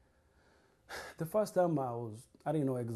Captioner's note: sighs